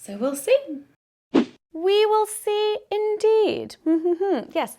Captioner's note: transition whooshes